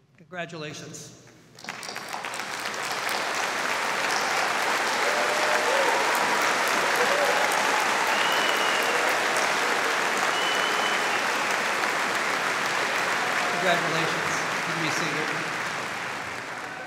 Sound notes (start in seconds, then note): 1.6 audience applauding